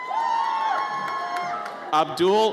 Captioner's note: audience cheers